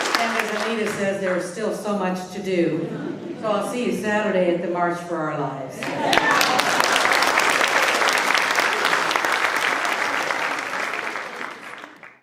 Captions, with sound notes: And as Anita says, there's still so much to do, so I'll see you Saturday at the March for Our Lives. (applause)